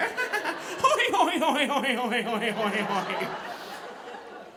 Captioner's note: laughing; audience laughing